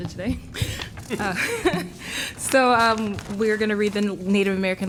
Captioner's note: laughter